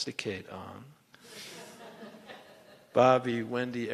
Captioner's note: laughter